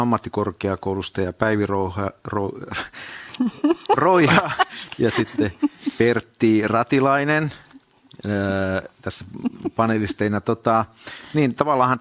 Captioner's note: naurua